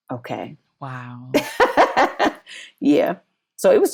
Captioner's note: laughs